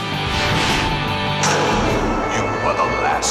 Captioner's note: air whooshing